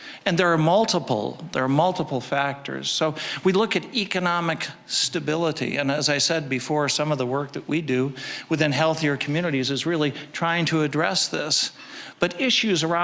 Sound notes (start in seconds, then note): none